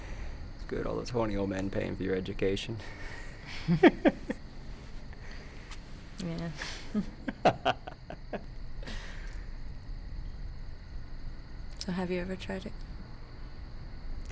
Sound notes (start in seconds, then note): 2.9 both laughing; 6.9 both laughing